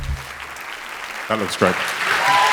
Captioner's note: applause